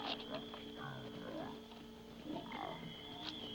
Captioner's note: growling